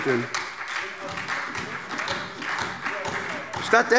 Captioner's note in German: Beifall SPD und BÜNDNIS 90/DIE GRÜNEN